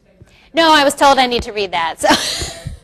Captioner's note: laughs